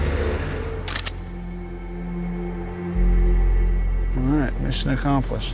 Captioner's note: camera snapping